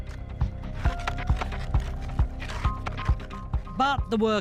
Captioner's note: upbeat music; tools scrape